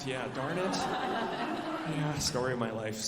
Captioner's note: alumni laughing